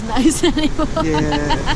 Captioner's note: laughing